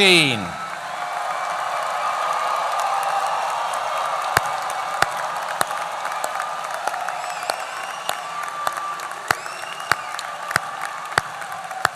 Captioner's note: applause